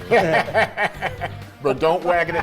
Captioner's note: commentators laughing